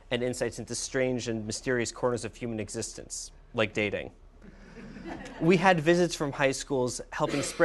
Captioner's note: laughter